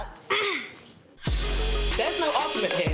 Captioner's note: clears her throat